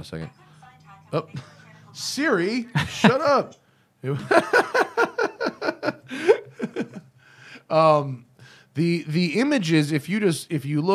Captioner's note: laughter